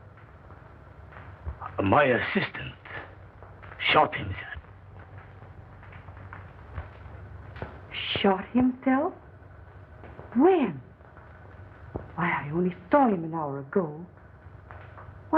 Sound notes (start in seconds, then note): none